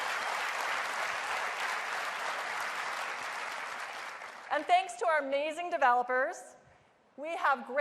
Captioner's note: applause